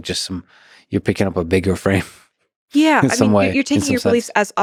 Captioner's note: chuckles